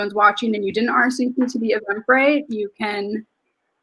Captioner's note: speaks faintly